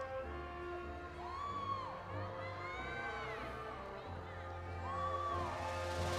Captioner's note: audience applauding and cheering